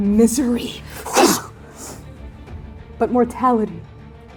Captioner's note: fighting noises